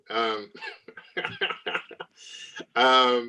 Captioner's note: laughs